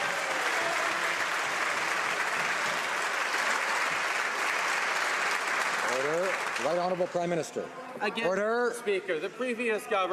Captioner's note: some Applause